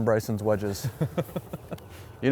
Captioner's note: laughs